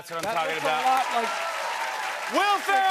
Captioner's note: cheers and applause